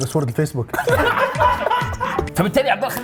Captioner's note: laughing